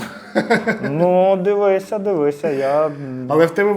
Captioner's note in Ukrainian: сміх